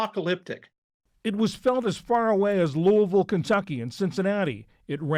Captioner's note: voice-over